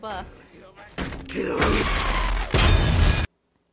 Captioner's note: explosions